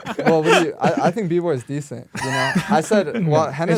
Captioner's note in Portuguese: risos